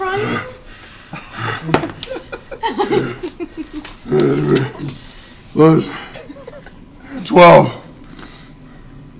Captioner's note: grunts